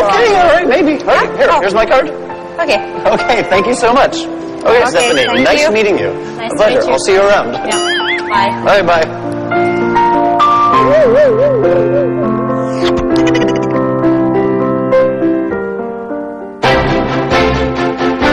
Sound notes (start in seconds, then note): 10.9 non-musical sound effect